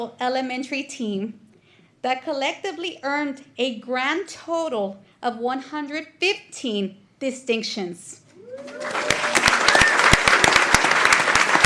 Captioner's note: applause